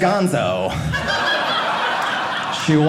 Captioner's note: audience laughing